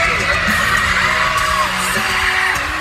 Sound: crowd cheering

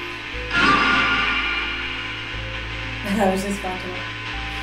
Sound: radio noise reverberating

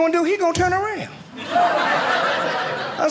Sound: audience laughing

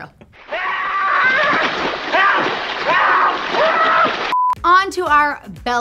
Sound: man screaming and splashing

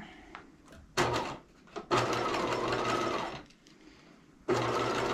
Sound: sewing machine clunking

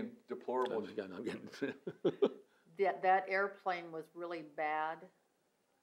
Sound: laughs

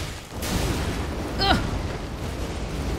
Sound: grunt

